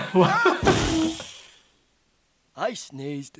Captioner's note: sneezes explosively